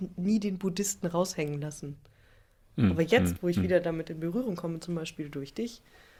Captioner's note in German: räuspern